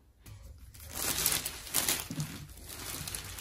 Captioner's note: plastic rustles